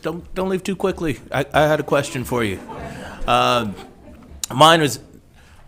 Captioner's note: all laughing